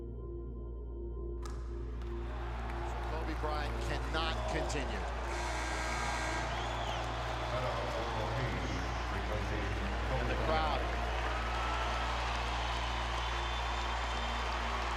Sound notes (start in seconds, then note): 1.2 ball bounces; 5.2 buzzer; 11.9 crowd cheering, applause